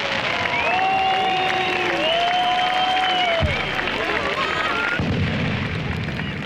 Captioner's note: cheers and applause; crowd cheering